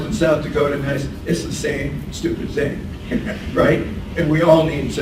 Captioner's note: laughs